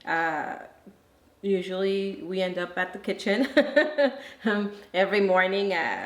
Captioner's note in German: lacht